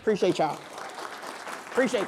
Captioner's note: applause